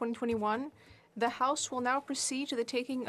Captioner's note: speaking French